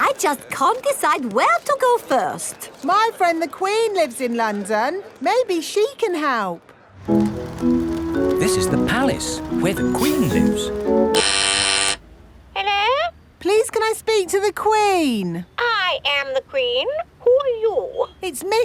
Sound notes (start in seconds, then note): 11.3 doorbell ringing; 12.9 over intercom